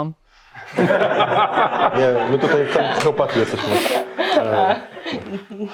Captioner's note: laughs